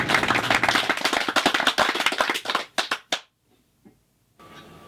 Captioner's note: applause